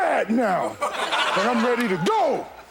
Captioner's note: shouting; audience laughing